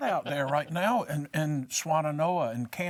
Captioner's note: laughs